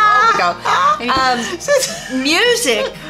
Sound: laughing

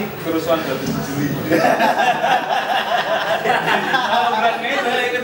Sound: audience laughing

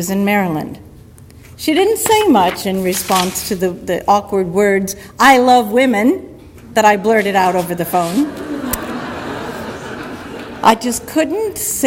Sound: audience laughter

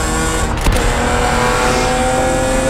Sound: gearbox paddle clicking; car engine rasping

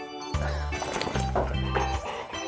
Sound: laughs

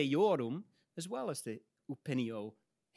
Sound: speaks in Latin

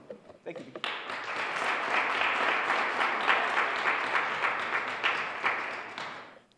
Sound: applause

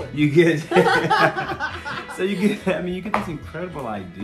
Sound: laughter

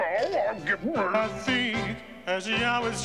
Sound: muttering

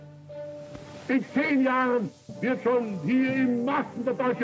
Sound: speaking German

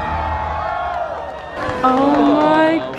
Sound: fireworks bang; crowd cheers

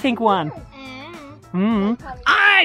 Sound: mumbling

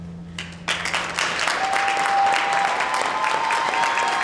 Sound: audience applauds

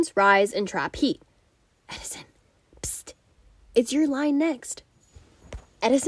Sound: whisper

